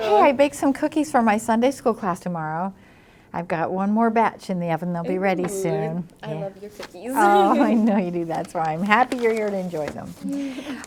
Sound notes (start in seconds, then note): 7.1 laughs